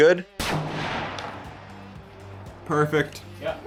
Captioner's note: gun fires